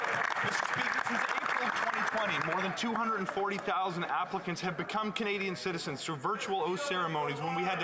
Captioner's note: applause